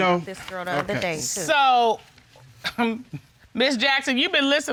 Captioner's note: chuckles